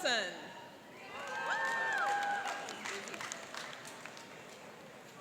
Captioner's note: cheering and applauding